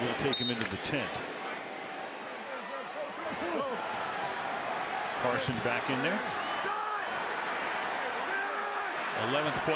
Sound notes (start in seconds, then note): 3.0 shouting